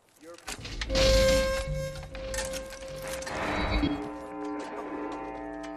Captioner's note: feedback squealing and buzzing